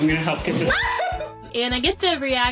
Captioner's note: scream laugh